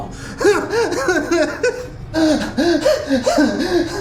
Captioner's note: Miles pants